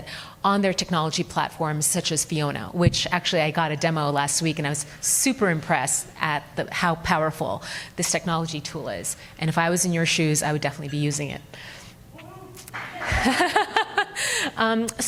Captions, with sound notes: on their technology platforms such as FIONA, which actually I got a demo last week and I was super impressed at how powerful this technology tool is. And if I was in your shoes, I would definitely be using it. (audience applauds) (laughs)